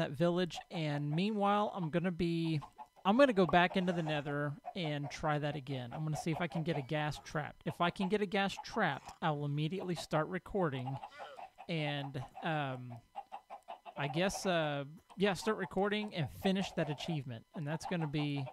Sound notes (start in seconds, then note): 5.2 horse snorts; 10.8 donkey brays; 13.9 llama calls